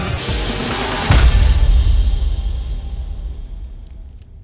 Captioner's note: tense upbeat techno music; fist thuds